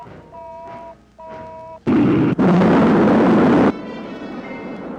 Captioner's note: rocket rumbling